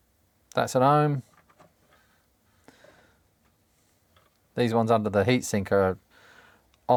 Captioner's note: silence